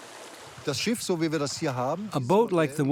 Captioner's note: speaking German